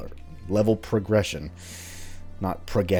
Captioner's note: enunciating